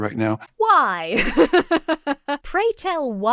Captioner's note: laughs